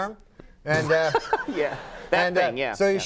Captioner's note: laughs